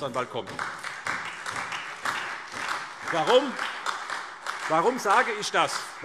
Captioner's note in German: Beifall SPD